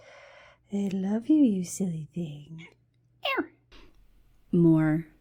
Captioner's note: mimics cat chirping